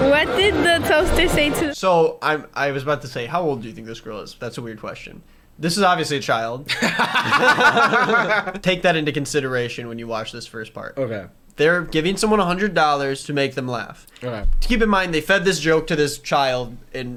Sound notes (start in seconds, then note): 6.7 laughter